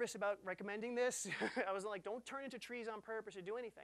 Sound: laughing

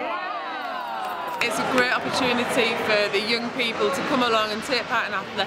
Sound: clapping

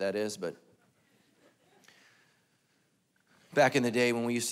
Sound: congregation laughing

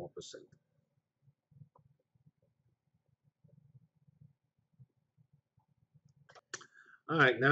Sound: pause

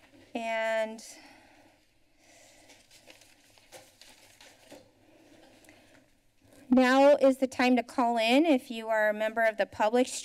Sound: gasps

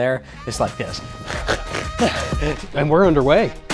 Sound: snorting

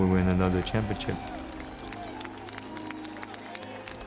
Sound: applause

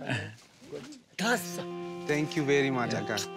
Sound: speaks foreign language

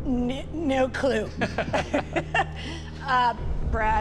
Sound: laughs

